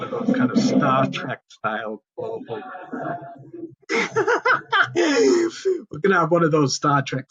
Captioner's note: laughs